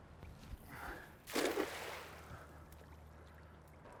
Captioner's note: net splashing